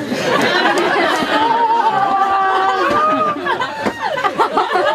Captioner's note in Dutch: meer gelach